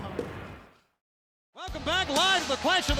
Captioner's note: objects thudding; lively music